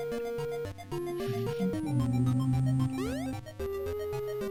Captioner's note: humming along